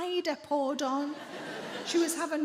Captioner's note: audience laughs